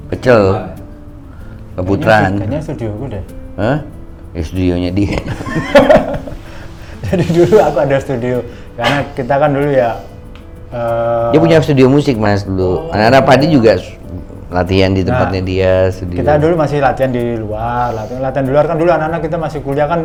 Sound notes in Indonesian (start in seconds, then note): 5.0 tertawa